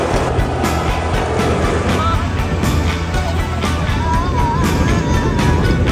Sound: air swooshing; upbeat music

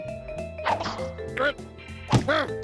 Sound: grunting

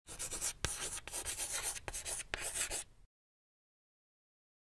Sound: chalk scratching on board

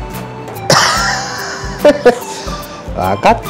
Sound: laughs

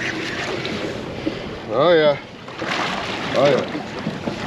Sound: reel cranking

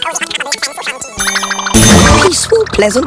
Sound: warble; ding

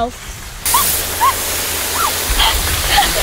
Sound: water hissing & spraying

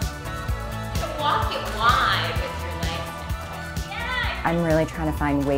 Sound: workout class chatter

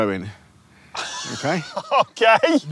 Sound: laughs

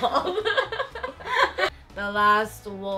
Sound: laughing

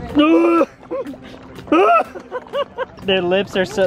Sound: screams

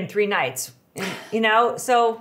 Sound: laughing

